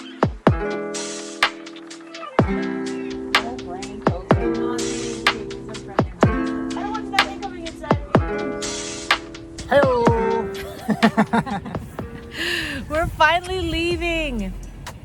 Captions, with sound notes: (cheerful music) - Hello. (laughs) - We're finally leaving.